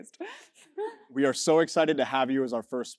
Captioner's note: laugh